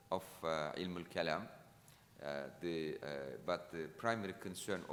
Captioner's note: speaking in foreign language